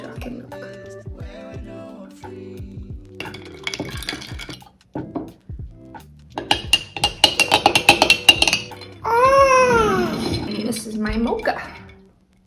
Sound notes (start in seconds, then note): 3.8 spoon clinking